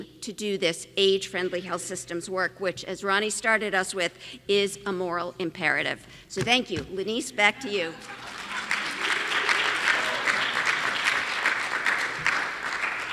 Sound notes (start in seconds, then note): 6.6 audience laughing; 8.0 audience clapping